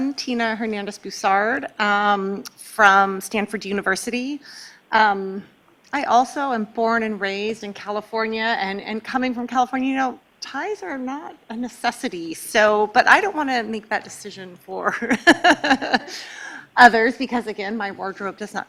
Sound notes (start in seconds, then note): 15.1 laughing